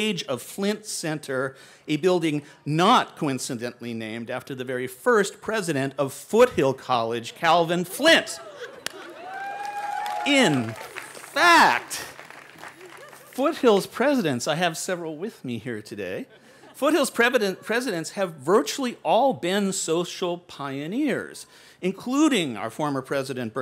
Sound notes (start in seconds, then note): 8.4 cheering; 16.2 laughter